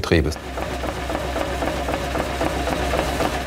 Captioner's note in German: Ruhiges Rattern